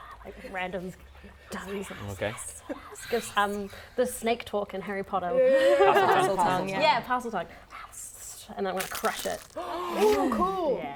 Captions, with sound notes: Like random tongues Gives um The snake talk in Harry Potter Yeah Parseltongue Yeah, parseltongue *speaks in tongues* And then I'm going to crush it *gasps* Cool!